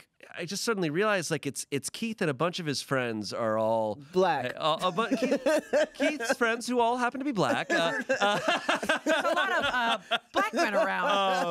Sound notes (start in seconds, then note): 4.8 laughs; 7.5 everyone laughs